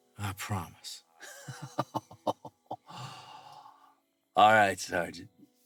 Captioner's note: Joe laughing